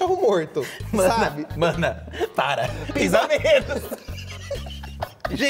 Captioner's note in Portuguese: risos